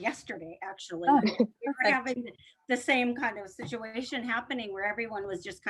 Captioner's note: laughter